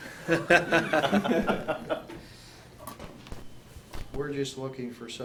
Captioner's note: laughs